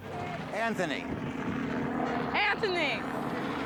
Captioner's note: helicopter blades whirring